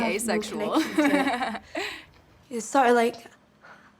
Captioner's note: laughs